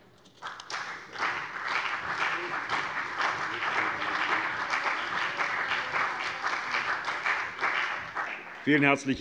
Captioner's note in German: Beifall CDU und vereinzelt BÜNDNIS 90/DIE GRÜNEN